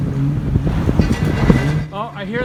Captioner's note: metal clanking